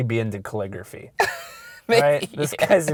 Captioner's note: voiceover